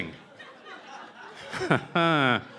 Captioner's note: laughter